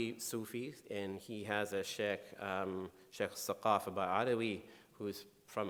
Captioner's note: speaking in foreign language